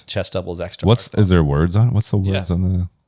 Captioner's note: none